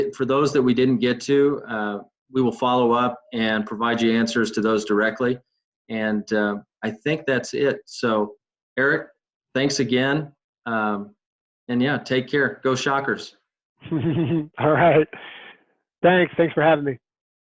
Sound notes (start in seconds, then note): 13.8 laughing